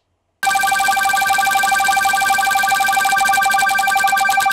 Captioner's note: video game sound effects